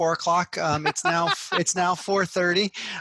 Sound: laughs

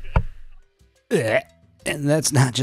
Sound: gagging

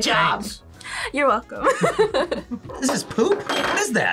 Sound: laughs

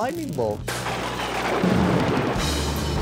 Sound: thunder crashing; rock music playing

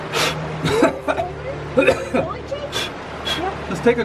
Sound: coughing

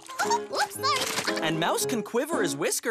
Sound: giggles

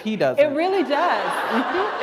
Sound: laughter

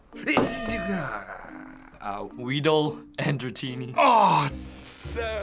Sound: tittering; groaning

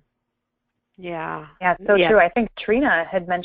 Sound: voiceover

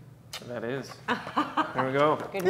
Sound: laughs

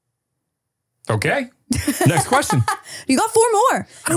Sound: laughing

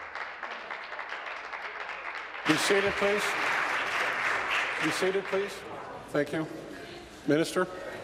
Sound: applause

